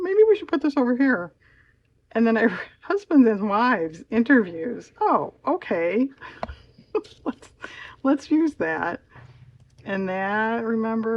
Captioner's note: laughs